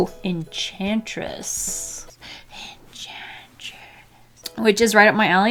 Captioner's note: whispers